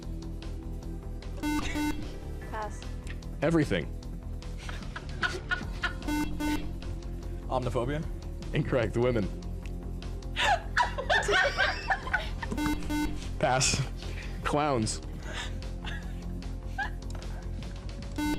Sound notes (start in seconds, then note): 1.4 beep; 4.6 laughing; 6.0 beep; 10.4 laughing; 12.5 beep; 18.2 beep